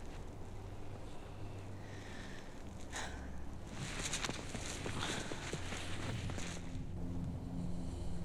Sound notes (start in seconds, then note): 2.3 Olivia sighs